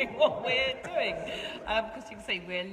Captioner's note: laughing